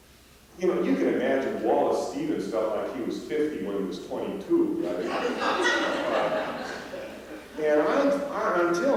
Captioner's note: laughter